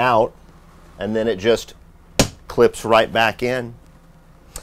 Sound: taps

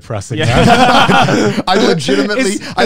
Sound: all laughing

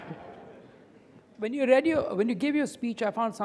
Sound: audience laughing

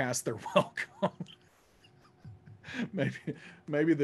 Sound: laughs

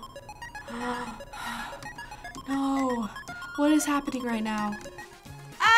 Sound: gasping

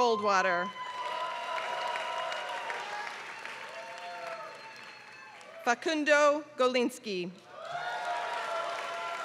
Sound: applause; applause

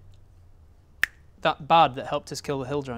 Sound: click

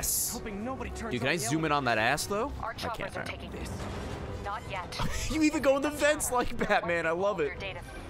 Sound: laughs

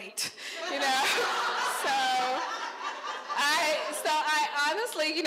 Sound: crowd laughing

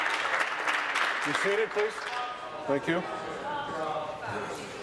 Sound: applause

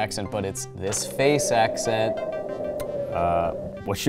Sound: wind howls

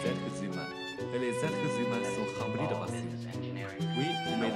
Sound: French

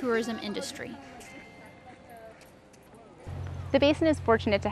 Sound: bell chiming

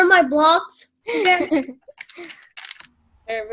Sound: laughter

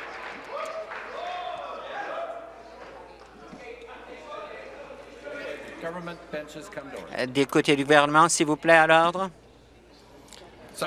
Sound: applause

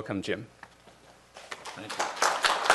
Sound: applause

